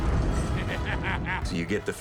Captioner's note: laughing